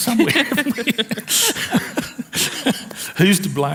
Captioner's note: laughs